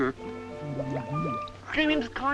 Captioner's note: water bubbling